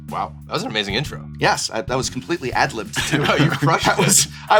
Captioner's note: chuckles; laughing